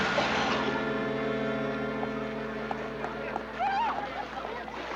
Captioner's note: scattered applause, laughter